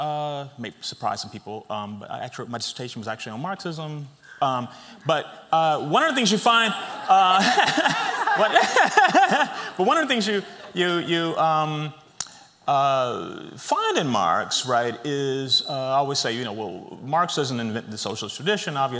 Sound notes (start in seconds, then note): 6.5 laughs